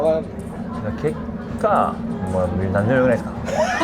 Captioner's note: laughs